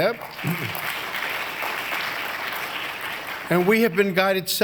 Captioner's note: applause